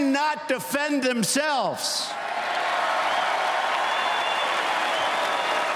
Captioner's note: cheers and applause